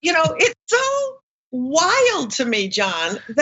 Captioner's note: laugh